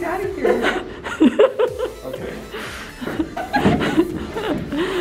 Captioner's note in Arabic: يضحك